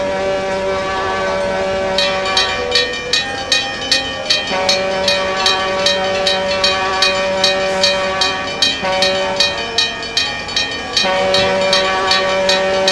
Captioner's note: railroad crossing ringing